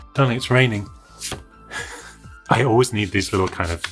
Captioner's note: laughs